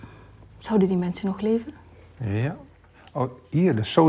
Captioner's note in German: Sie unterhalten sich auf Holländisch